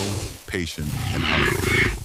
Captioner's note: snorts